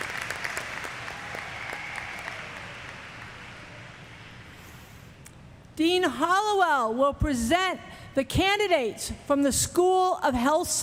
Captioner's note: cheers; applause